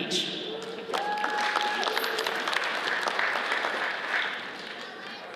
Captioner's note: audience cheers and applauds